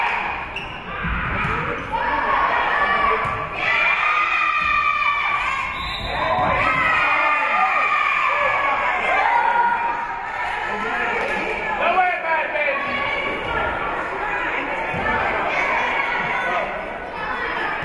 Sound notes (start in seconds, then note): 5.6 whistle being blown; 6.0 spectators and team cheering; 10.4 spectators shouting encouragements